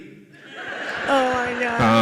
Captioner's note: audience laughs